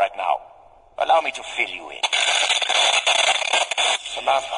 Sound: Static

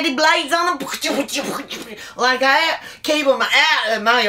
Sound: sounds of decapitation

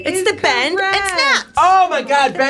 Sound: bell dinging

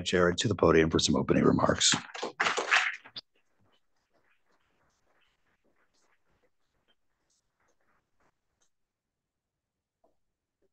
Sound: applause

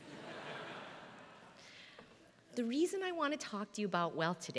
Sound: laugh

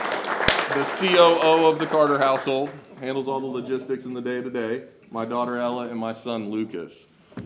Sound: applause

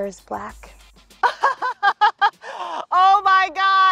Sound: laughs

